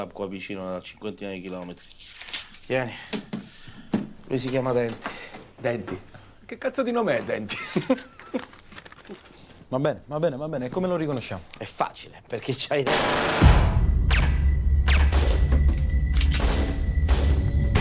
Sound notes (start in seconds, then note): 7.5 laughs; 12.8 gun firing; 16.1 gun cocks